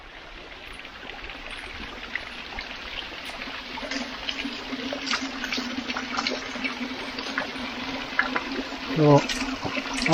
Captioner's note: water trickling down sound